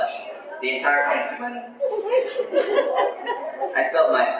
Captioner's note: laughter